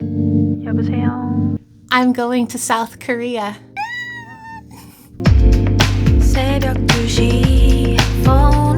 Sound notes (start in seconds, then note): 3.7 squeal